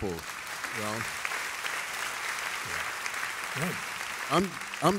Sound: audience applauds

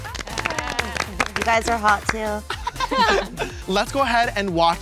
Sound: laughter

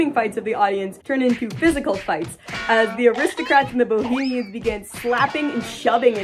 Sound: various punching sound effects

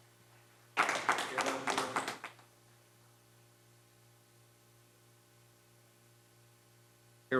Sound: applause

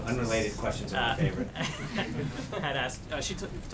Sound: laughter

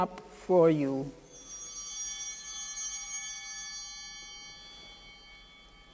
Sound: altar bells ringing

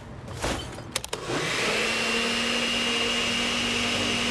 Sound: blender running

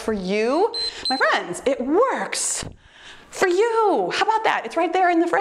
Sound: timer beeps

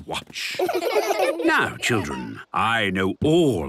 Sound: laughter

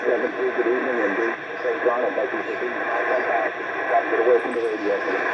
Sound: indistinct conversation

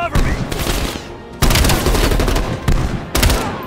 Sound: gunshots

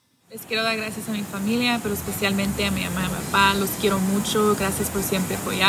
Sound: speaks in foreign language

